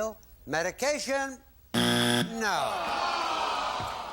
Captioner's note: buzzer